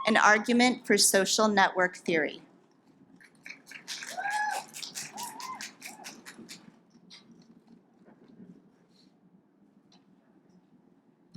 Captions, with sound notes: and argument for social network theory. (audience applauds)